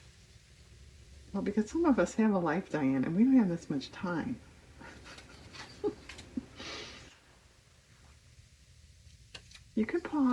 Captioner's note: laughs